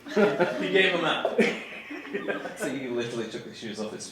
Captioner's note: laughs